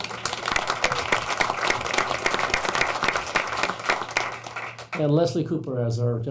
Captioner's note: applauding